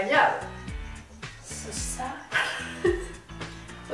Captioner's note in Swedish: skratt